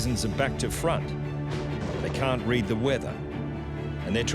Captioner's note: lighting crashes